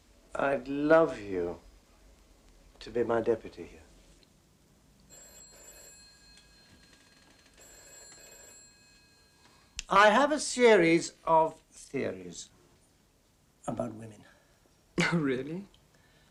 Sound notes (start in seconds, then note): 5.0 phone ringing